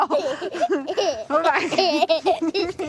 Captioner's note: laughs